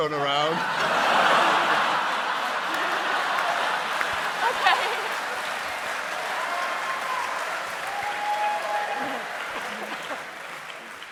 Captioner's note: laughter